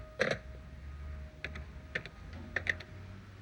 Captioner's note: dialing phone